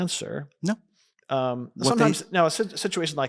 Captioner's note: faintly speaking